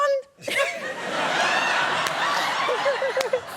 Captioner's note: laughter